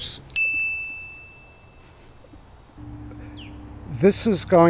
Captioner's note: bell chiming